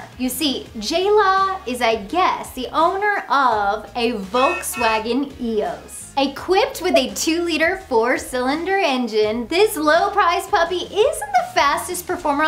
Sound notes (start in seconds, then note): 4.3 Volkswagen honking